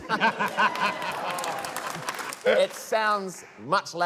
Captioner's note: laughter, cheering, applause